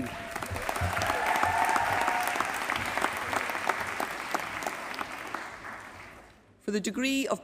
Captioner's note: applause